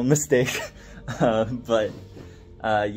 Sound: chuckles

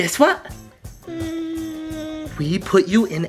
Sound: baby murmurs

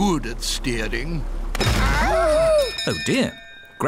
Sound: clattering; bell ringing

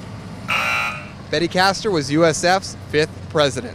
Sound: buzzer

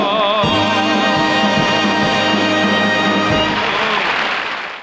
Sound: audience applauding

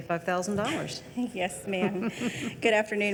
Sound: all chuckling

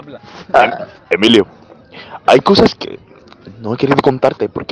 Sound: burp

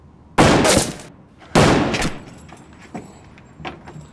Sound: gun fires

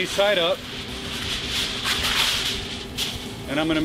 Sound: aluminum foil crinkling

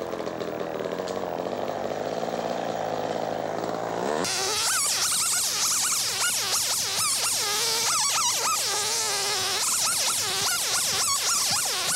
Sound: chain saw sounds

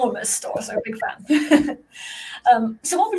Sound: laughs

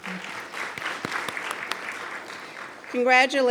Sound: attendees applauding

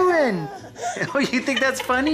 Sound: baby laughing noises

